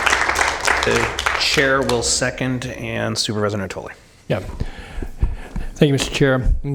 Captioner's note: applause